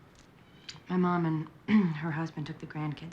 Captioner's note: clears throat